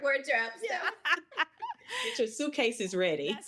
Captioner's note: all laughing